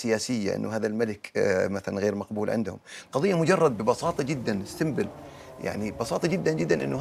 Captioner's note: speaking in Arabic